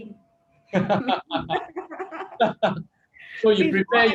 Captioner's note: both laugh